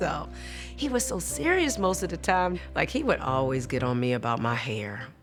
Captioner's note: none